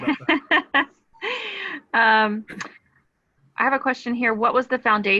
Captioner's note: laughing